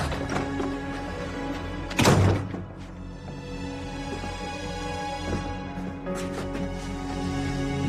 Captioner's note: door opens